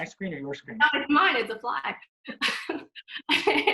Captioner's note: laughs